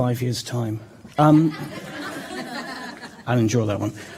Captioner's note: laughter